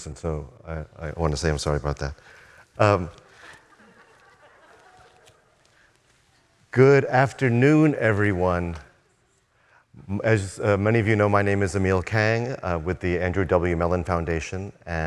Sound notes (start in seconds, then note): 3.3 audience laughing